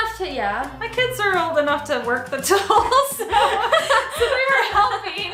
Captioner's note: laughs